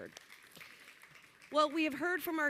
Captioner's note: applause